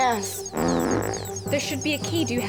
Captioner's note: farts